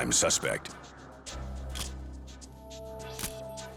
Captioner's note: camera shutter click